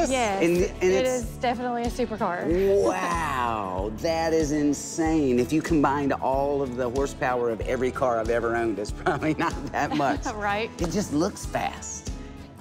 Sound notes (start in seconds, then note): 9.1 laughing